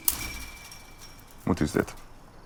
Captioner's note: fence snapping